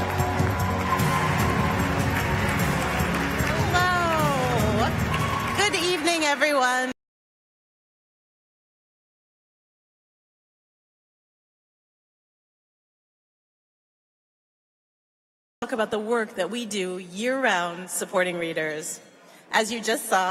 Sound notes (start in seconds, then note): 6.1 applause